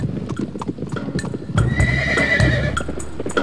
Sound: horse whinnying

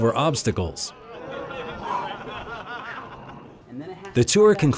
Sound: laughter

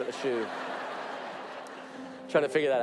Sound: audience laughing

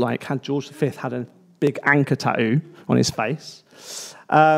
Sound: none

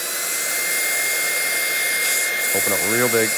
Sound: drying tool sound

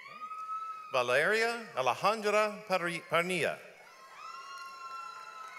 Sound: audience applauds

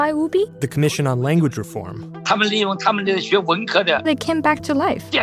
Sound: speaking Mandarin

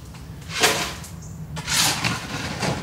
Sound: shovel noises

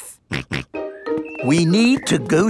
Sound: snorts

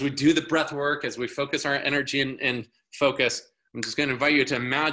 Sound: fingers snapping

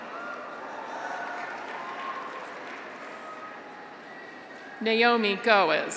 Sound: audience applauds; graduates cheer

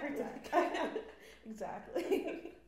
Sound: laughs

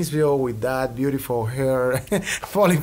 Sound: laughs

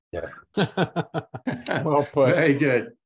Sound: chuckles

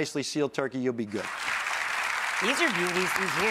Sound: audience clapping

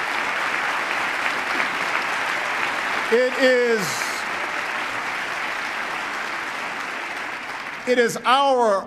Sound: applause

